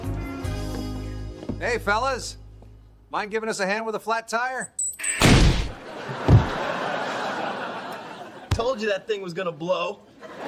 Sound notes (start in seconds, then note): 5.0 warning beep, then boom; 5.7 laugh track; 10.1 laugh track